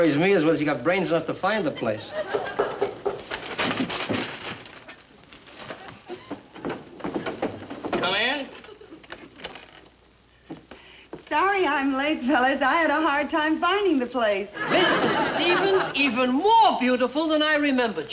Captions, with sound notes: The only thing that worries me is if she's got brains enough to find the place. (knocking) (door clicking) - Come in! - Sorry I'm late, fellas, I had a hard time finding the place. - Mrs. Stevens, even more beautiful than I remembered you!